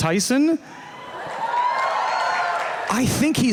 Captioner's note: cheers and applause